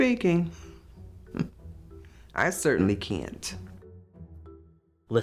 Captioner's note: scoffs